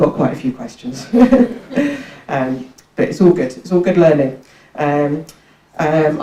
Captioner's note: laughs